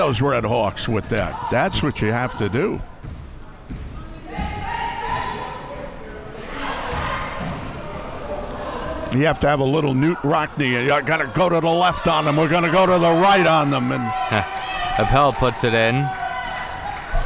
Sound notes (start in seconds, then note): 4.2 athletes shouting; 17.0 spectators shouting